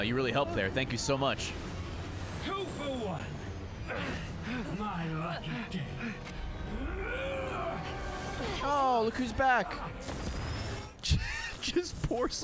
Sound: laughs

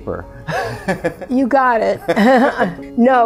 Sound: laughs

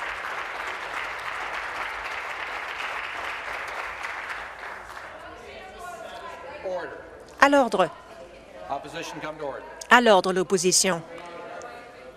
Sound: applause

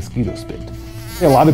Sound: mosquito flying

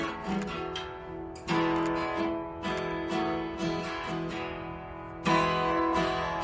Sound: shutter clicking

